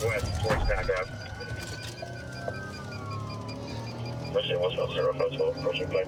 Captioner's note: sirens wailing